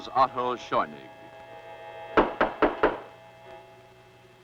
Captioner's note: knocking